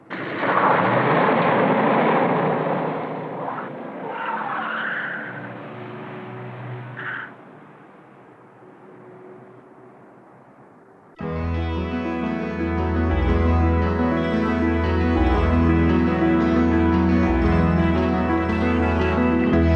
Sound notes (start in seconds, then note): 0.1 car wheels screeching; 0.7 car engine thrumming; 11.2 calm orchestral music